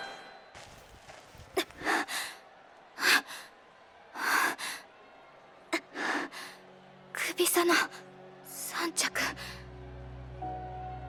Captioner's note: huff